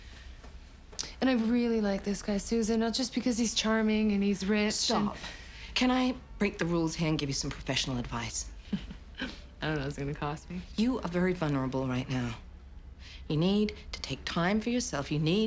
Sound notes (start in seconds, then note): 8.6 laughs